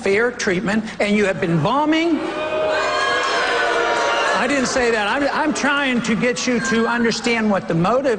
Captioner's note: boos